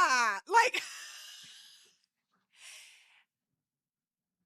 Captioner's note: laughs